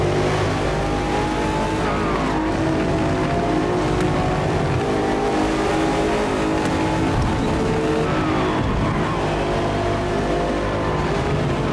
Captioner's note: engine roaring